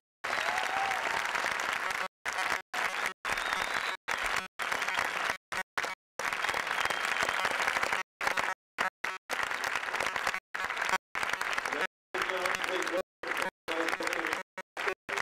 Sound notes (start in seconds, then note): 6.6 whistling